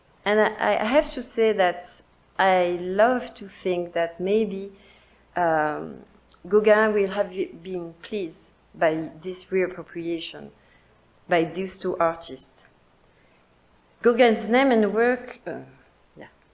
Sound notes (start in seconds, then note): none